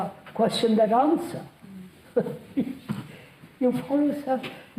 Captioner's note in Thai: หัวเราะ